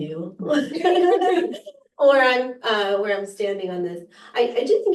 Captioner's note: laughter